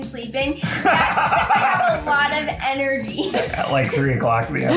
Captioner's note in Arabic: يضحك; ضحكة مكتومة